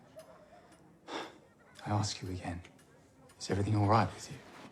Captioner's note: sighs